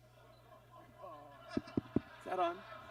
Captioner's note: audience groans; microphone taps